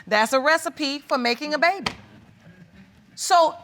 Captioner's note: audience chuckling